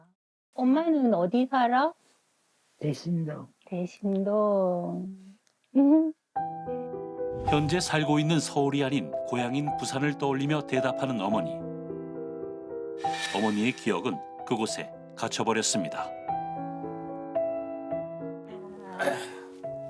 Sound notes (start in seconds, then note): 8.0 voiceover